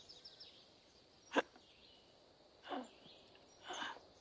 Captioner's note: hiccupping